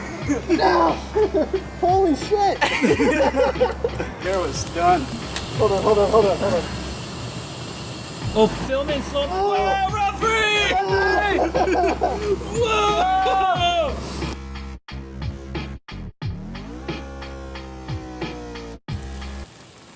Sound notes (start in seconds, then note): 2.6 laughter; 8.4 exclaiming and laughing